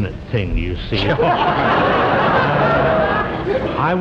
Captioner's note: audience laughs